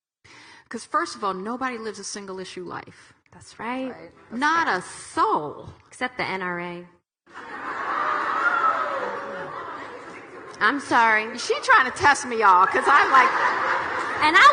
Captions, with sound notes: 'Cause first of all, nobody lives a single issue life. Not a soul. - Except the NRA. (audience laughing) I'm sorry. - She trying to test me y'all 'cause I'm like,